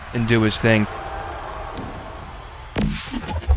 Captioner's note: crowd cheers